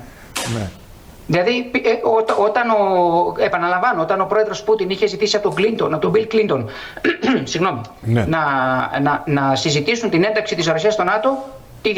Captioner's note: clears throat